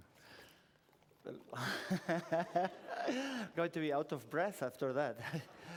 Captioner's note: laughs